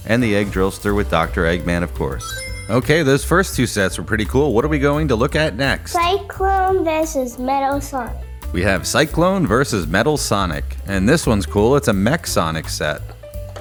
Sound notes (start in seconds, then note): 2.1 Sonic Ring Chime